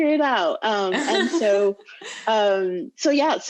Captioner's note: chuckles loudly